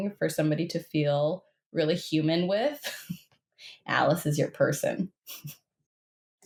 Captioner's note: chuckles